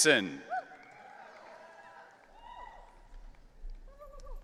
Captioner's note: audience cheering